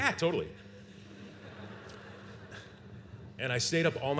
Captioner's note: laughter